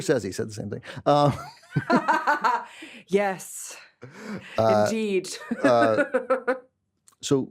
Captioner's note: laughs